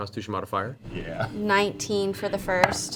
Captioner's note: laughs